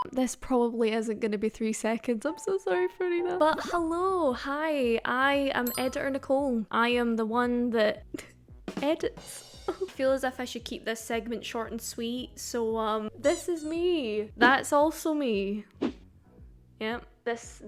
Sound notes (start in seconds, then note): 9.7 giggling